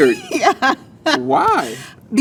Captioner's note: laughs